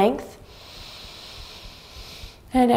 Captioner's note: inhaling deeply